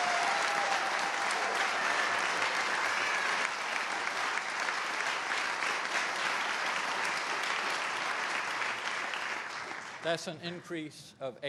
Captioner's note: applause